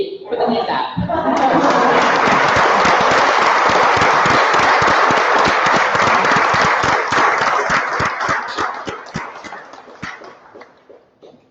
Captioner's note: applause